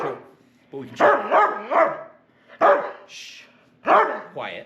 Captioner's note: dog barks; dog barks